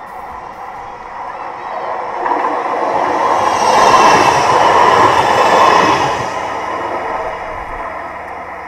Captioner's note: tram rumble